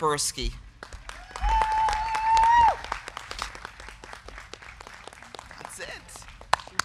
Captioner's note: crowd clapping; crowd cheering